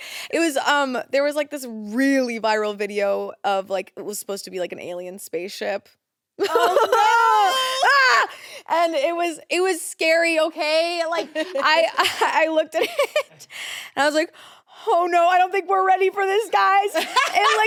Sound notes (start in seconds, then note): 6.4 laughs; 7.0 shouts